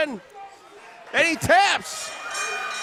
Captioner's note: bell dings